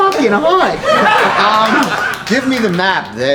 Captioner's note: audience laughs